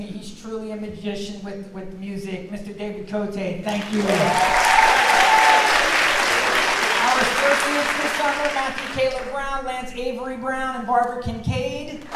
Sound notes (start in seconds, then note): 3.6 audience clapping